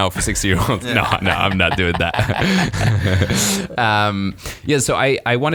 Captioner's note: laughing